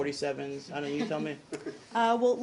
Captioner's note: laughter